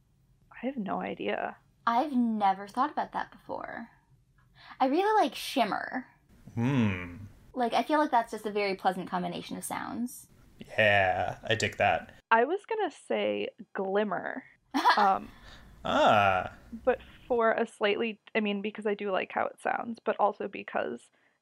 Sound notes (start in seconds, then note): 15.8 laughs, surprised